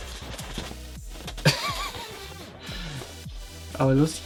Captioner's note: laughing